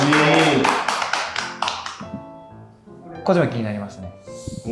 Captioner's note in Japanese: 拍手